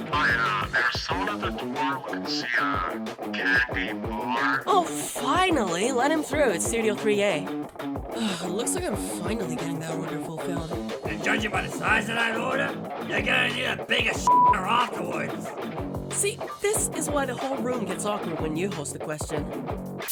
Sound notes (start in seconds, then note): 6.8 intercom turns off